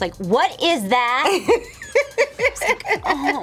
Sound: laughs

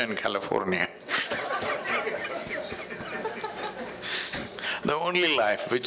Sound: laughter

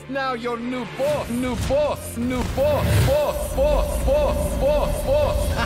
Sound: echoes

